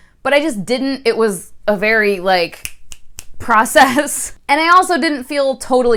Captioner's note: snap